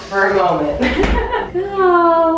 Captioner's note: laughing